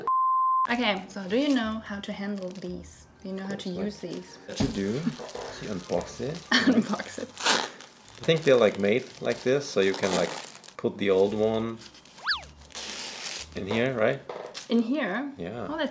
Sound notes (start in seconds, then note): 7.4 ripping